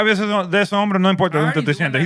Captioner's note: non-english Speech